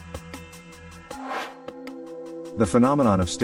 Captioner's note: air swooshes